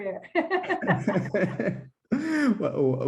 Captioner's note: giggle